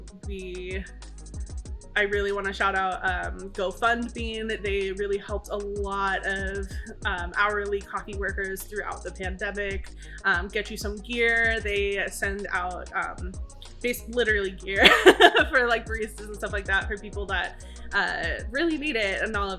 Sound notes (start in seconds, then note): 14.8 laughs